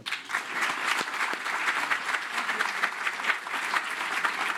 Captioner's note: applause